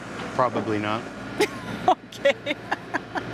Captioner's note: laughs